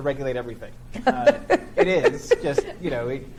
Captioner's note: laughs